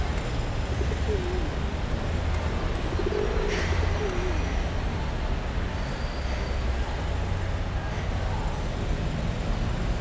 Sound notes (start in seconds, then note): 3.6 sigh